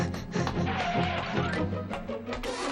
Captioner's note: shoes screeching